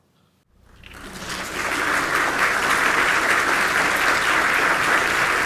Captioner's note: audience clapping